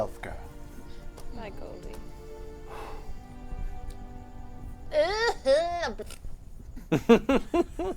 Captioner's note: fake-cries